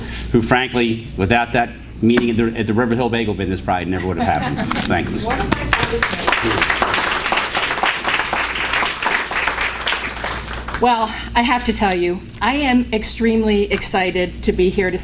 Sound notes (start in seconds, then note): 5.2 applause